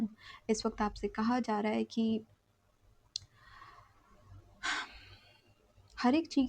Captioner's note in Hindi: गहरी सांस लेने की आवाज़